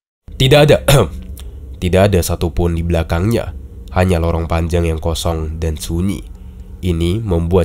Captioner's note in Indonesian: Ehem